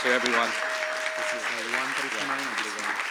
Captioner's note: applause